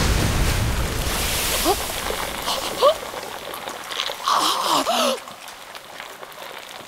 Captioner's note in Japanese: ジェノスのうめき声